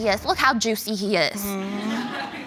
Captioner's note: audience laughing